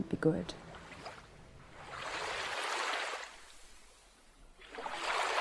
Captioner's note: water splashing